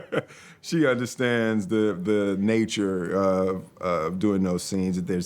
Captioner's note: laughs